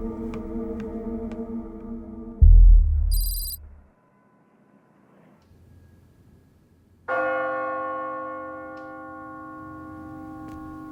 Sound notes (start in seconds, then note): 7.1 bell tolling